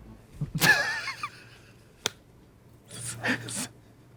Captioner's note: Katya laughing